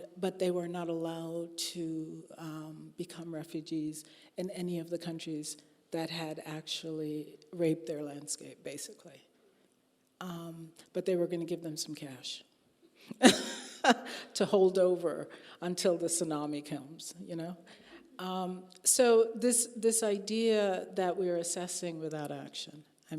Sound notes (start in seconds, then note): 13.7 laughing